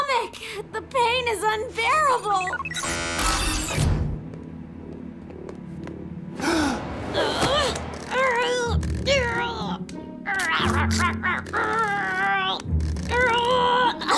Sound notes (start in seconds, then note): 6.1 gasps; 6.8 grunting; 10.1 growling; 13.9 grunting